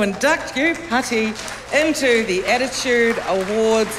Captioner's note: cheering, applause